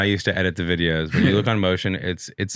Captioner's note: chuckles